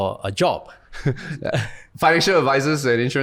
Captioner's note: chuckles